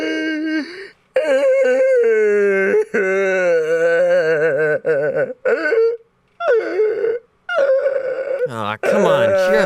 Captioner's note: Rom Sobbing Very Loudly